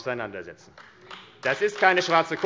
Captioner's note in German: Beifall AfD